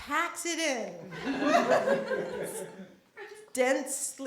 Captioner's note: laughter